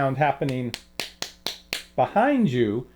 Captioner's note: slapping